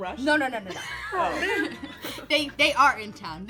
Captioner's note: laughs